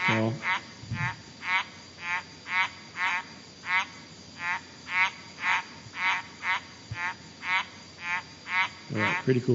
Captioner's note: sound of frog calling